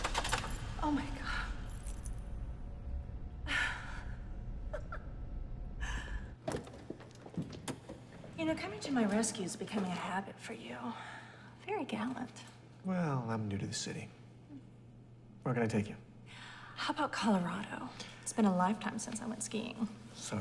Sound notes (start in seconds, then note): 4.6 Elaine laughs; 6.6 car door clicks